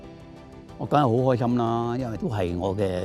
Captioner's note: Cantonese